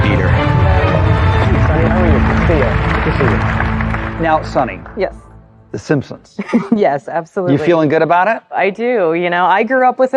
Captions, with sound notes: Yes. -..The Simpsons... -Yes, (CHUCKLES) absolutely! -..you feeling good about it? -I do. I grew up with it.